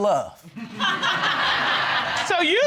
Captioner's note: laughter